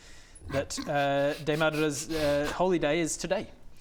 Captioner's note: snickering